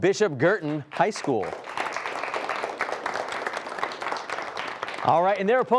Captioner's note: applause